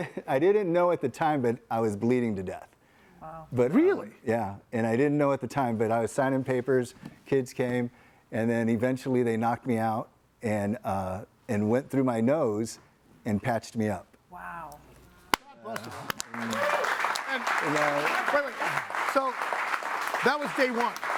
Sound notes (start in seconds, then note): 15.6 audience applauding